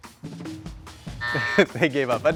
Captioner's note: buzzer buzzes